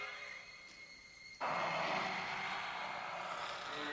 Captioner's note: undead hissing; dramatic music